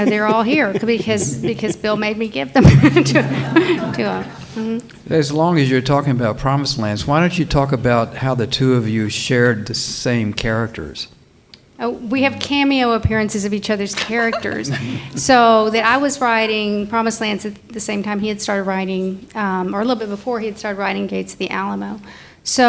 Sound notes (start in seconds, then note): 0.0 laughs; 2.5 audience laughs